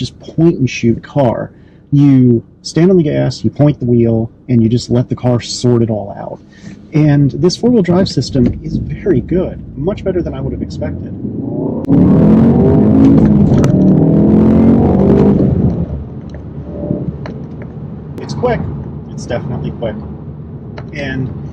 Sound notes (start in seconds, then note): 11.9 engine noise; 16.8 whirr